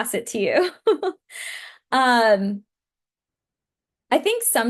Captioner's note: laughs